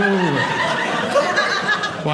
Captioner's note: audience laughing